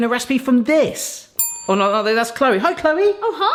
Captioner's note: bell dings